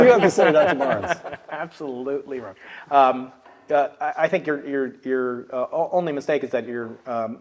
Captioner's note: laugh